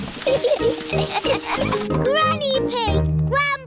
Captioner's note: laughter